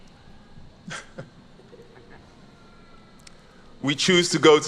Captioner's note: chuckles